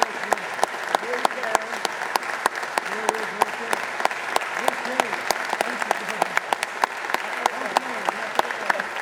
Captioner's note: cheering